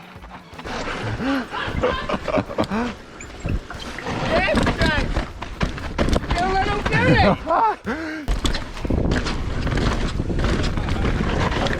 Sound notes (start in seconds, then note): 0.7 both laugh; 7.2 laughs